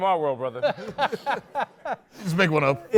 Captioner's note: laughs